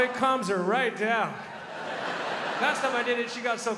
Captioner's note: crowd laughs